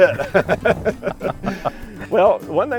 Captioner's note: laughing